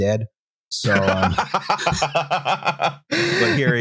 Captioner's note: laughs like a madwoman